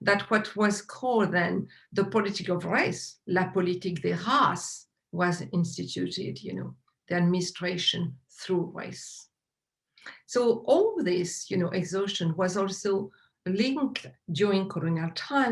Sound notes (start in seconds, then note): 3.7 speaks french